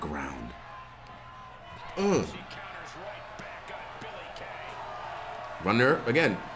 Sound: applause

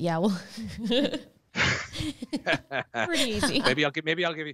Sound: narrators laughing

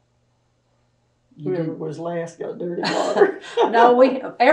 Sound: laughs

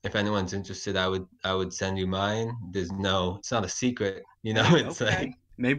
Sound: chuckles

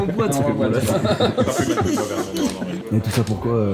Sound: laughs

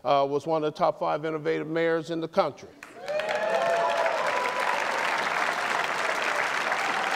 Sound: applause

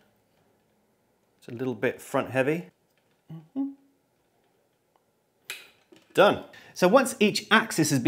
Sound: mmm hmmm

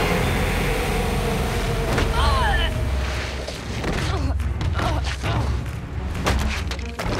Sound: groaning

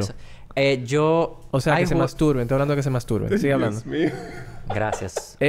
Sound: laughs

